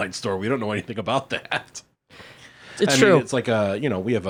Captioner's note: laughs